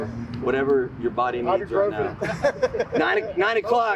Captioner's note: group laughing